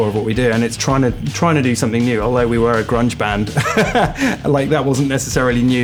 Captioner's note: laughter